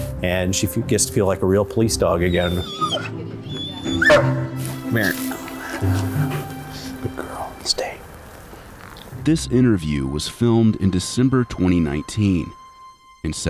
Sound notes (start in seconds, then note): 3.4 Baylee whines and barks; 5.9 Baylee pants